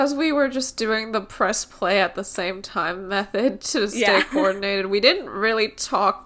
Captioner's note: laughs